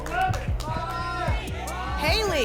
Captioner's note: applause and cheering; audience shouting numbers